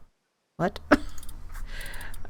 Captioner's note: laughs